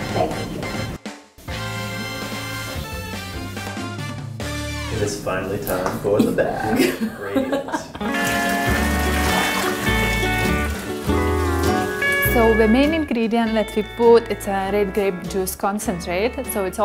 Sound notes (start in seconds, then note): 1.4 upbeat jazzy music; 6.6 laughter; 8.0 cheerful, relaxing music